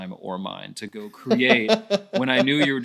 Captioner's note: laughing